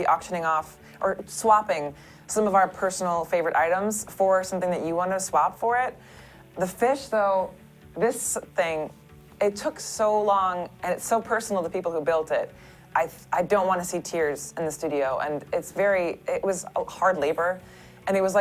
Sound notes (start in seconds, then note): none